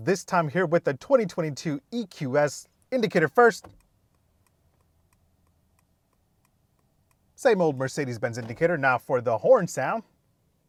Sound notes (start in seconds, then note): 3.6 indicator ticking